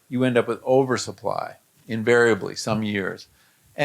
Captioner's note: none